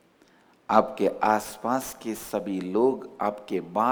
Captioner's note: in hindi